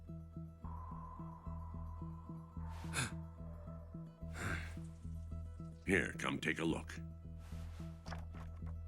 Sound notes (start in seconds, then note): 2.7 gasps